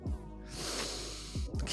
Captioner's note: breathes